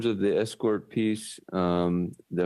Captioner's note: speaking French